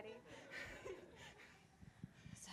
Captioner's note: audience laughing